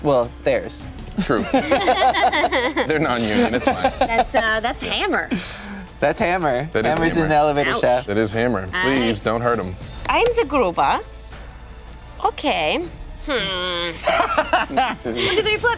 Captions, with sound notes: - Well theirs. - True. (laughing) - They're non-union, it's fine. - That's Hammer. - That's Hammer in the elevator shaft. - That is Hammer, please don't hurt him. - I'm the Gruber, okay. Hmm, one, two, three, flip.